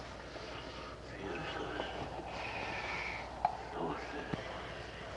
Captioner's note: whispering